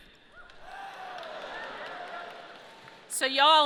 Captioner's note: audience cheering and clapping